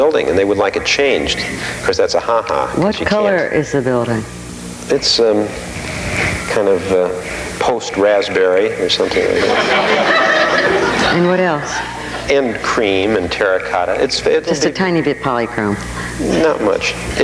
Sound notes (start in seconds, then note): 9.1 audience laughing